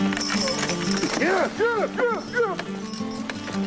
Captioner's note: yelling at horses